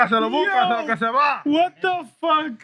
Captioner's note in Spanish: Hablando en idioma extranjero